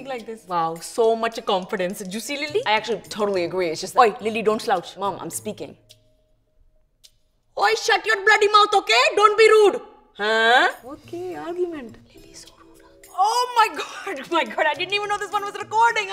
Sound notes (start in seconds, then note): 11.3 whispering